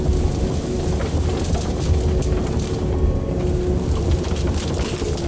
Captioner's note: trees cracking